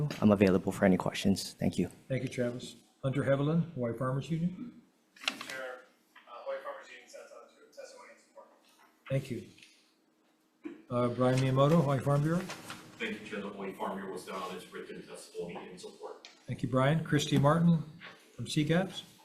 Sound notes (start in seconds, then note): 7.1 faintly speaking